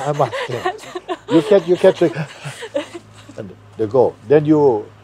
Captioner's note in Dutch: Vraagsteller lacht